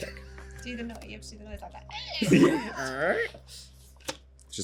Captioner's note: squeaks